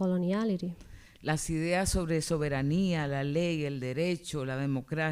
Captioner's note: speaking spanish